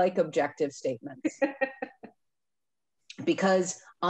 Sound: laughing

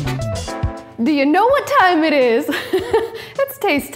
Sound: laughing

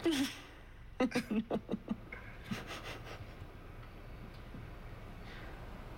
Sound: laughs

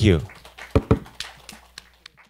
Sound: applauding

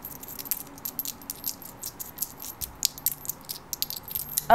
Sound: small metal item jingling

